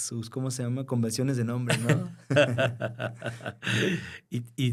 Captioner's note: laughter